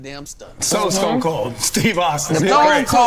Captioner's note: scoffing